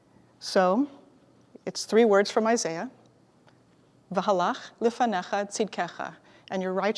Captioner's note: Hebrew